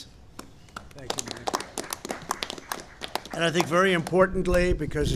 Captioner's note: applause